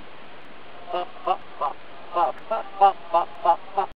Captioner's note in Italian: canticchia felice